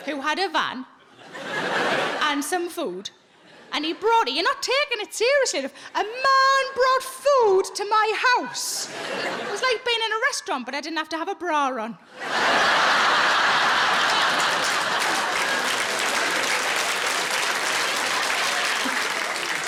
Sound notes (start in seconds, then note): 12.2 audience laughs and applauds